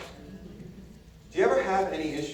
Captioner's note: audience murmurs agreement